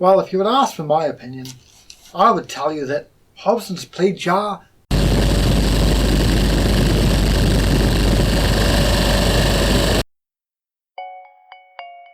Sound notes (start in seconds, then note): 6.8 burning intensifies